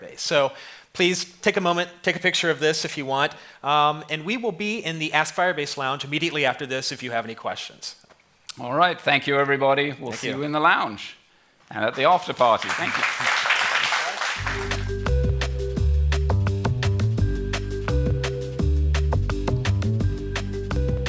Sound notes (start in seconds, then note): 13.7 applause